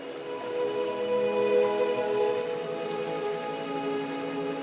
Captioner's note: solemn music; water gurgling